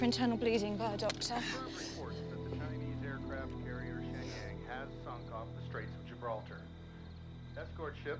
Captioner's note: radio